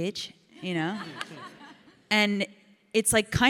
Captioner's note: audience laughs